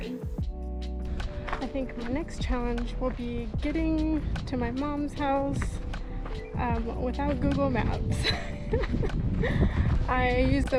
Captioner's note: laughs